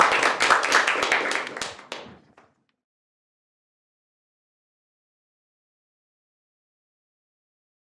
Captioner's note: applause